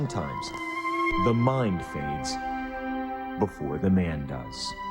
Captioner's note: voiceover